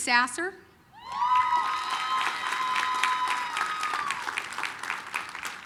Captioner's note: applause, cheering